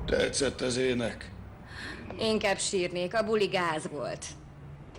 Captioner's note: sighs